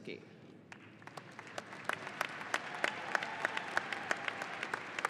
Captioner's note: audience applauding